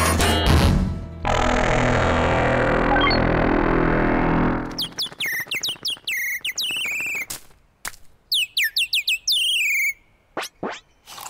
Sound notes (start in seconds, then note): 4.6 chirping